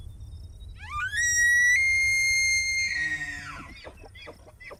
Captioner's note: elk bugling